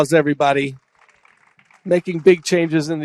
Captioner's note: applause